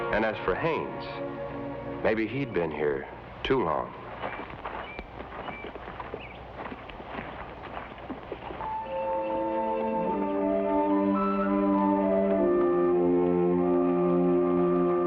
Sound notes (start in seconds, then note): 4.5 birds chirp; 8.5 somber music